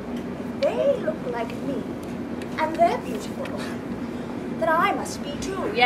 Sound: none

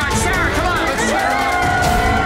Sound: cheers

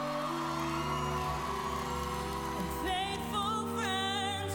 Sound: cheers and applause

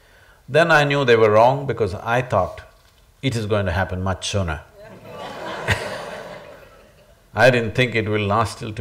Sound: laughter

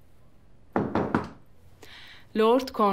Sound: door shooting sound

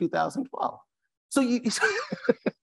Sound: laughs

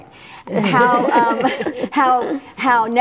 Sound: all laughing

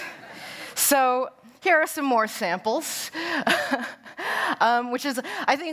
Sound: laughter

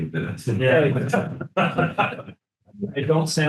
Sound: group laughing

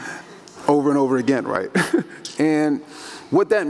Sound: chuckles

